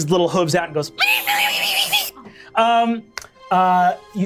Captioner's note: imitates pig oinking